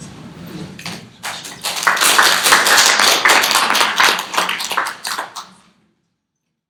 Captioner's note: applause